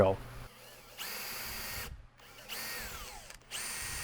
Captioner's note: drill whirs